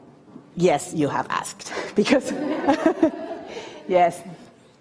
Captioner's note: audience laughing